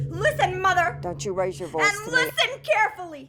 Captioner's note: mother over phone